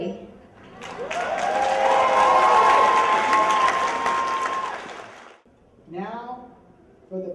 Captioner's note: cheers and applause